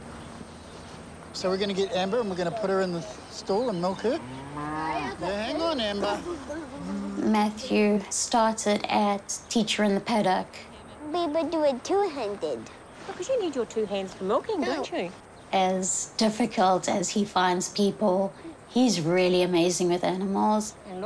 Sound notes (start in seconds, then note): 4.0 cow moos